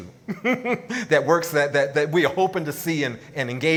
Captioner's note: laughs